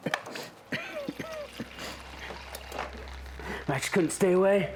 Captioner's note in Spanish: Jonathan tosiendo; agua cayendo